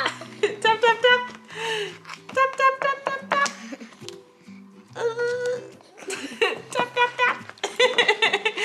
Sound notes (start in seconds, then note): 6.0 laughing